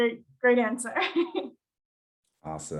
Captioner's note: chuckles